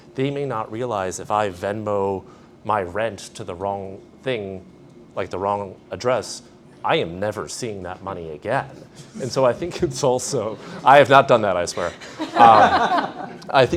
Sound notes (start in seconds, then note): 10.2 all laughing